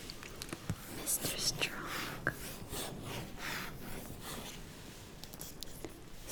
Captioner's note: scratches